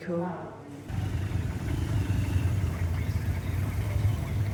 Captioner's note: traffic idling